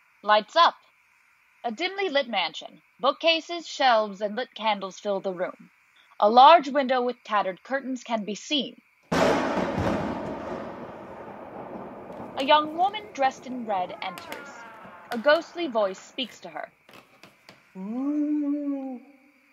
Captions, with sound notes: Lights up. A dimly-lit mansion. Bookcases, shelves and lit candles fill the room. A large window with tattered curtains can be seen. [Thunder strikes] [Creaky door opens] NARRATOR: A young woman dressed in red enters. A ghostly voice speaks to her. [Footsteps on a creaky wooden floor] A VOICE: Ooooooooooooh.